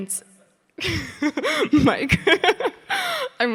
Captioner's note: Sydney laughing